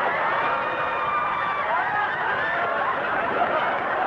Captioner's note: audience laughing